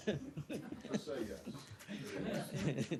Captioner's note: laughter